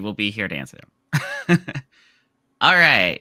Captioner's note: chuckles